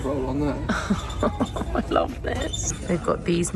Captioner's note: chuckles